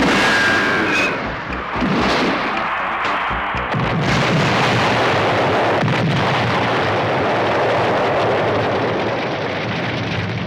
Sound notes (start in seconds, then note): 1.1 booming; 1.3 crashing; 2.5 cheering